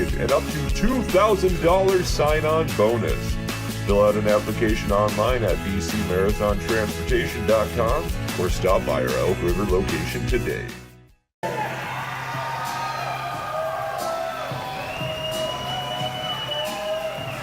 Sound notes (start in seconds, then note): 11.4 crowd cheers and whistles; 11.6 tense music